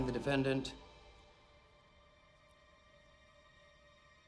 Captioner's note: none